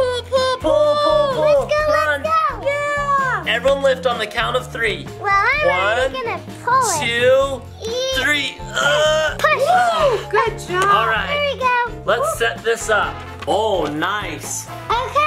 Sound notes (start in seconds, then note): 3.1 playful music; 8.6 everyone grunting